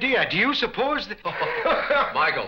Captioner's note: men laugh